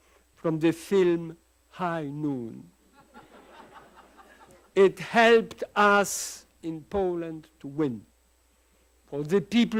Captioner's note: laughter